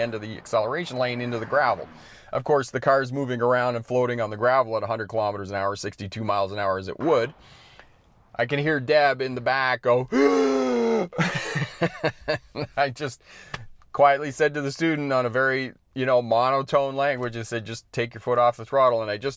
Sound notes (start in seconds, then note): 10.1 gasps